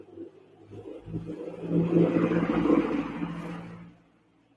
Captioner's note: engine roaring